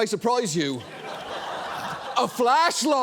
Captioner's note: audience laughs